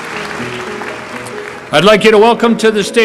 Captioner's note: applause